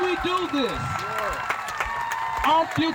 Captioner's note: crowd cheering